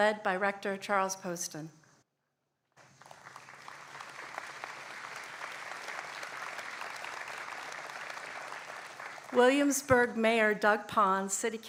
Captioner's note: applause